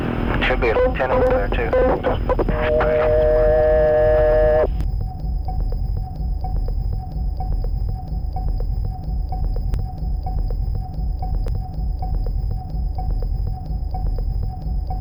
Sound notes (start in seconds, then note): 3.0 line buzzing; 6.3 tense music